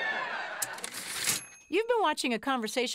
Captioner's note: typewriter ding